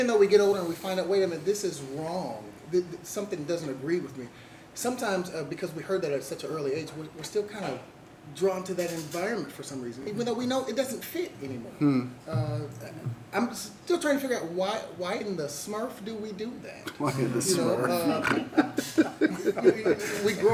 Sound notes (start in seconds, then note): 18.1 laughs; 20.3 laughs heartily